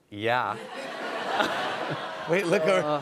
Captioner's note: laughter